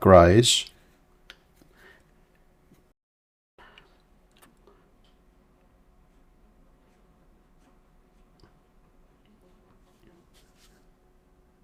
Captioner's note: silence